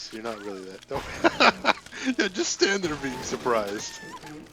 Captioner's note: laughs